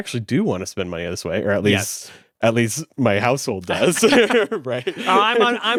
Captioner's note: laughs